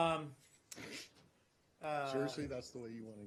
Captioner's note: laughter